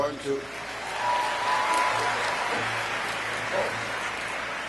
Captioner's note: audience cheering